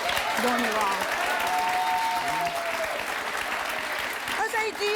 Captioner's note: audience applauds